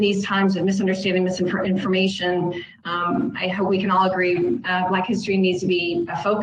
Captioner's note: distorted audio